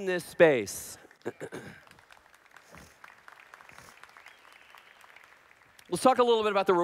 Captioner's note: applause